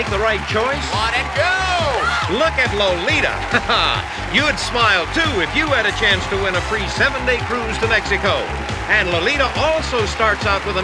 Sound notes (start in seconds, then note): 3.3 chuckles